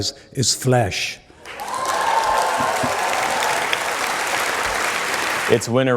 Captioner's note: cheering